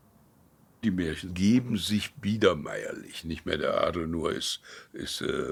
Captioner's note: speaking in foreign language